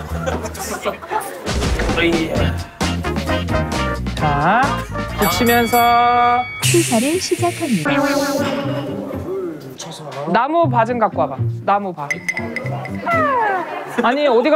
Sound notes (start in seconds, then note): 6.9 sounds like a kettle again